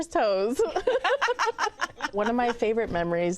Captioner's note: laughter